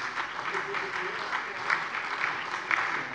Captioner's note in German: Beifall SPD, DIE LINKE, vereinzelt CDU und Freie Demokraten